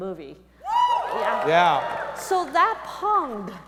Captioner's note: audience members cheering